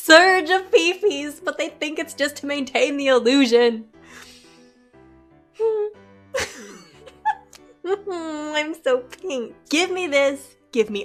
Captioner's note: laughs